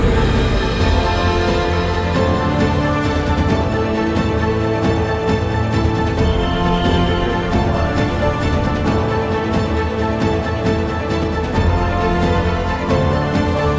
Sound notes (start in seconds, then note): 6.2 traffic whistle